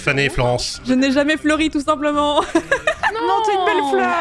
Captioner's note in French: rire